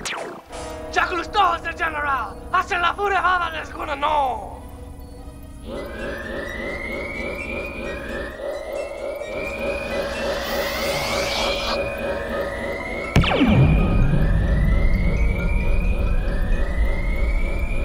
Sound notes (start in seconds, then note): 5.6 emergency alarm; 13.1 drop pod launching sound